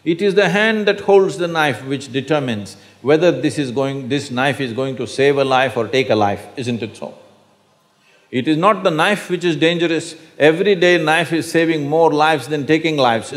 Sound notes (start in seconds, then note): none